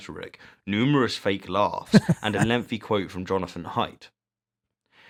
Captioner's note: “Hahaha”